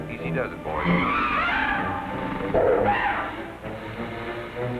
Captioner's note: animals screeching